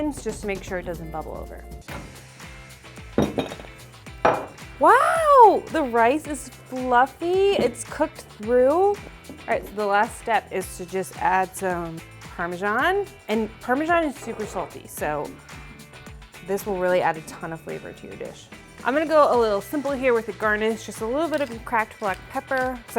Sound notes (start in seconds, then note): 3.2 dishes clanging